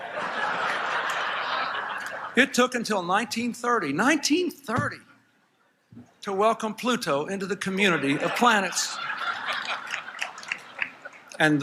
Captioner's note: laughter